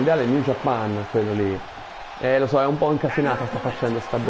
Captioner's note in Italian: Applauso